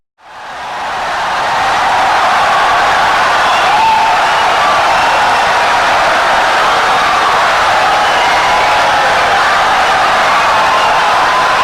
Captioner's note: wild applause and cheering for 17 seconds